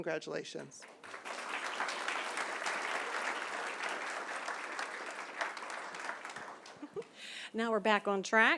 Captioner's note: applause